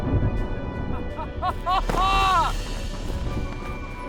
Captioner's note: Clark laughs proudly